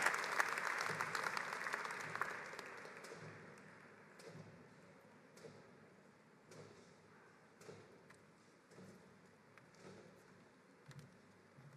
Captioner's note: applause